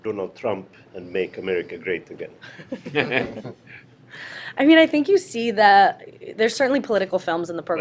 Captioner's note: laughter